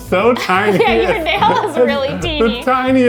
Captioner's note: laughing